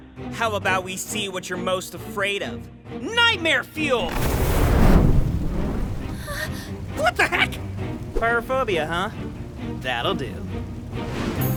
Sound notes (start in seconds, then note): 4.7 fire wooshing and roaring; 6.2 gasp